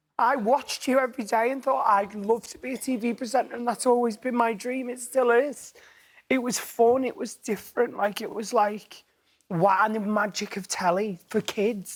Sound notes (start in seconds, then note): none